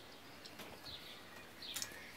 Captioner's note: birds chirping